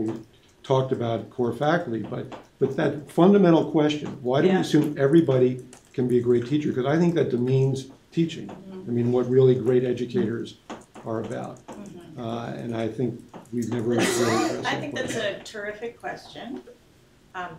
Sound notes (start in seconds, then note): 13.8 coughing